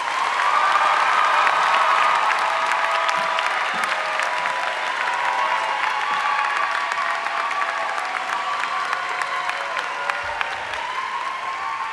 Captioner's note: applause